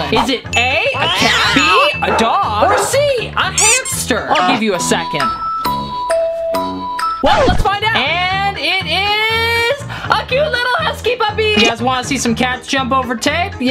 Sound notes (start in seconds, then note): 5.8 dinging